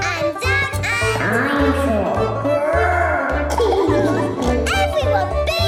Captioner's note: laughing